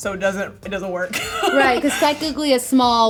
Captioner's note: laughing